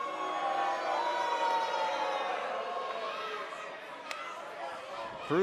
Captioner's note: cheers & boos